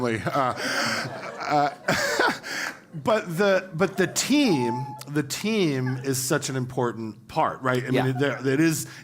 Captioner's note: laugh